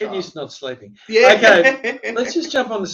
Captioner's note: laughs